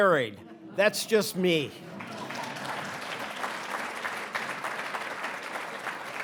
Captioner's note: audience applauding